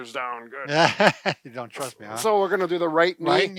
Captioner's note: laughs